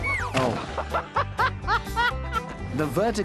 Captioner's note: γέλια